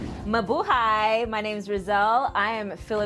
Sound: speaks in Tagalog

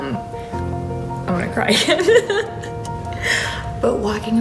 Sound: laughing

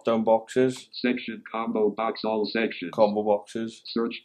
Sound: computerised voice

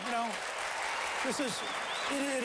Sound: applause

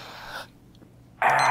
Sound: sigh begins; timer beep

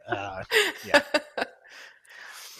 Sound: laughter

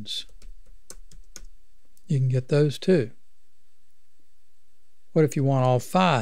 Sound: clicking

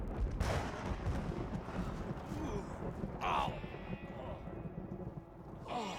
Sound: thunder; groaning

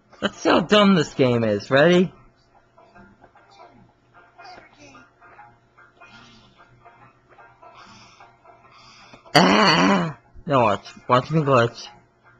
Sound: throws up

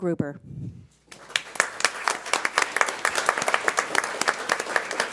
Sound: audience applauds

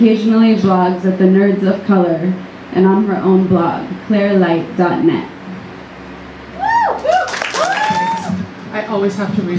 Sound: audience cheering and applause

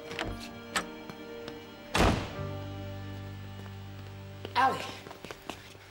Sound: door slamming

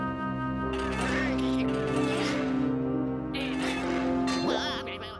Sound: straining

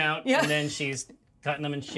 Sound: chuckles

